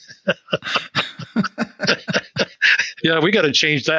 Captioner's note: both laughing